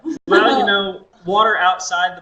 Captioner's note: laughter